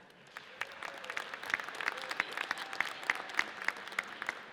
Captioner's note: audience applauds